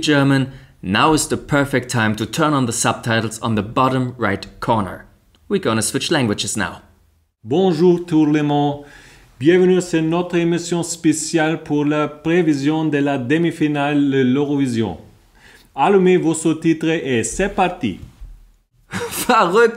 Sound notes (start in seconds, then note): 7.1 perfect french